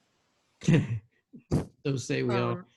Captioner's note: laughs